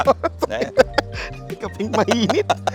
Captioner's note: laughs